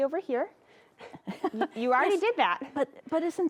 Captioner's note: chuckles